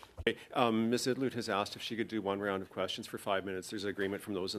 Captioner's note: speaking French